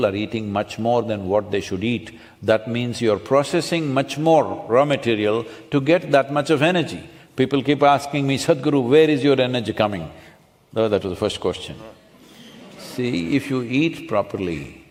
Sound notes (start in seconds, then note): 11.7 few laugh